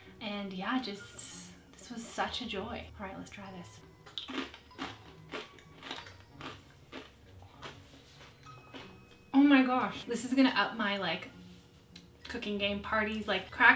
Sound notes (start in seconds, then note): 4.1 cracker crunches